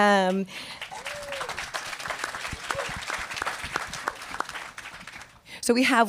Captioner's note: applause